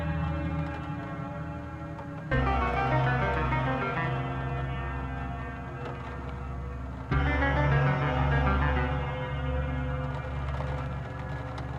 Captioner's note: rain